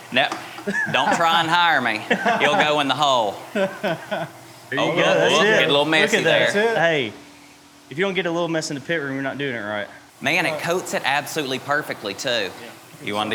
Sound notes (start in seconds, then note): 4.0 people laughing